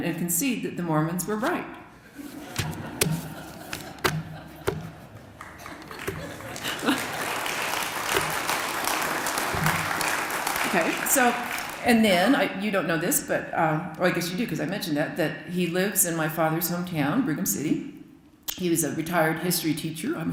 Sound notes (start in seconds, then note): 2.1 laughter; 6.8 applause